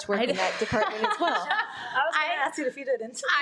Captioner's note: laughs